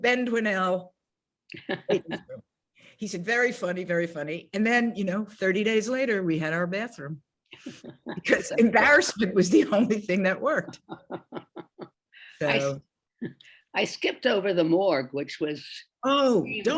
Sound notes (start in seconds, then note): 1.5 laughs; 10.5 laughs